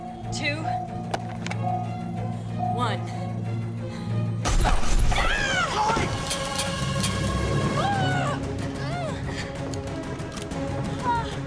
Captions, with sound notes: two... one. - Go-- ah! - Chloe! (gun clicks) (groaning)